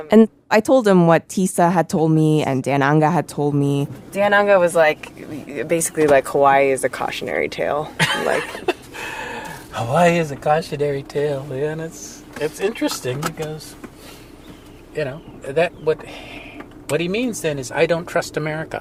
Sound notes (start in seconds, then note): 7.9 laughs